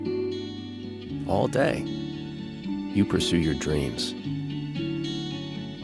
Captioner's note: voiceover